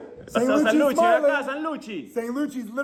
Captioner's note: speaking Spanish